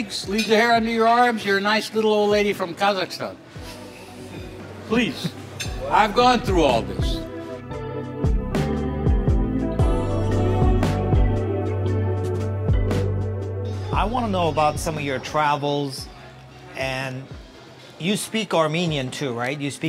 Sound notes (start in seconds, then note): 3.5 laughing; 7.2 gentle upbeat music